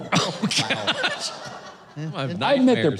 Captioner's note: audience laughing